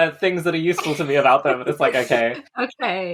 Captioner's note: laugh